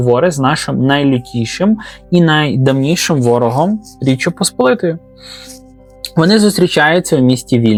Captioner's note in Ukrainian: сопіння